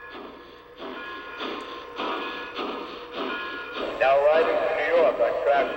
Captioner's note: bell clanging; voiceover